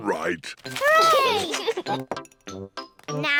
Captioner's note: giggles